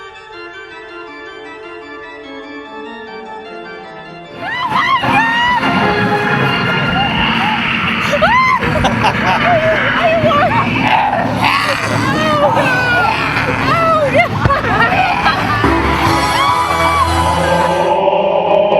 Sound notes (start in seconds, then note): 0.0 spooky music; 4.6 screaming